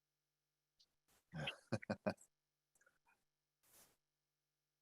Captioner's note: laughs